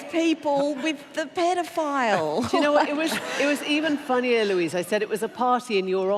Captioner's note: laughter